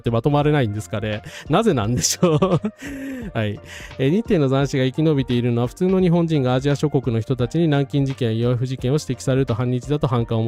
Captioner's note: laughs